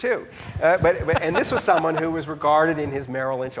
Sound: laughing

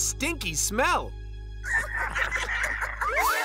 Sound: cackling

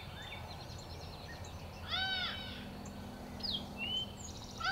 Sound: deer call

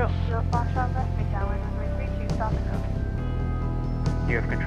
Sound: controller talks over radio - in background

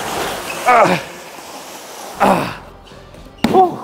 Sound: man groaning

